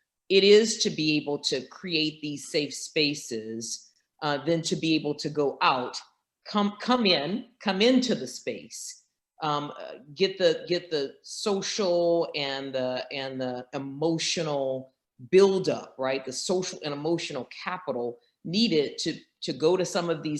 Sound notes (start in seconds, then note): none